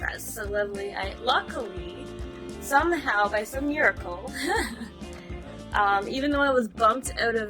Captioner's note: giggles